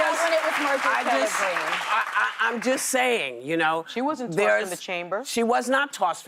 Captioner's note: applause